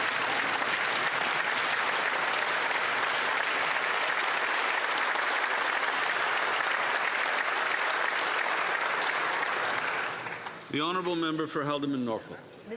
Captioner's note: some Applause